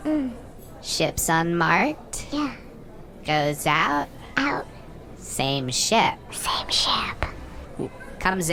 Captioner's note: whispering